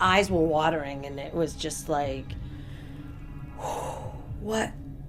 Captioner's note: deep exhaling